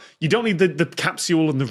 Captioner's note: none